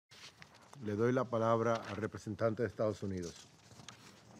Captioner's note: in Spanish